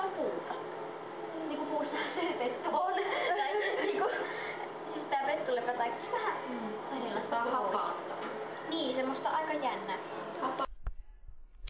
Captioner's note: laughter